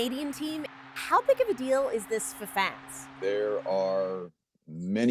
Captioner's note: cheers and Applause